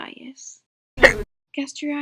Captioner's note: hic!